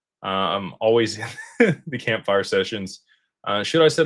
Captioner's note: laughter